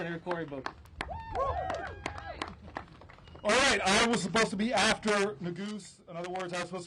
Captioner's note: applause